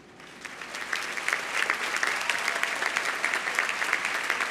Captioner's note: audience applauding